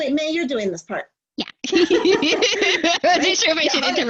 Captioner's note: laughter